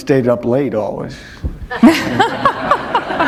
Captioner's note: laughter